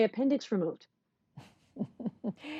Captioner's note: laughter